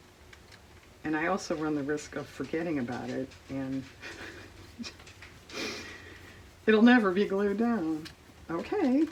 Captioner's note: laughs